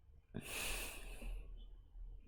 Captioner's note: breathes out